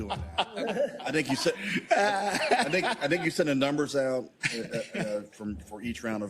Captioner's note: laugh